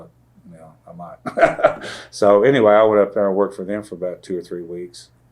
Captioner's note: laughs